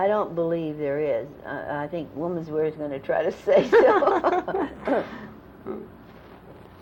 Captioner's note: laughter